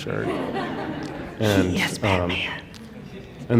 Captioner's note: stage whisper